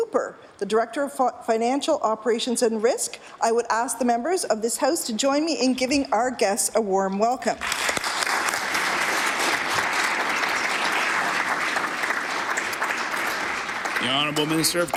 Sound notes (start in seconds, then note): 12.9 applause